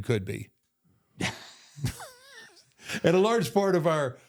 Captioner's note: both laugh